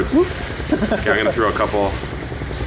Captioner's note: laughing